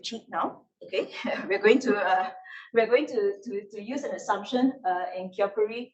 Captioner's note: laughs